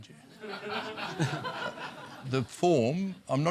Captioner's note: laughter